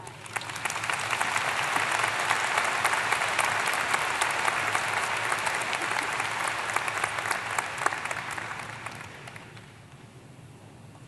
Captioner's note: applause